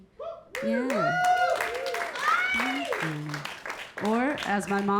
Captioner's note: audience clapping; audience cheering